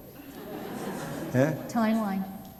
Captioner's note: laughter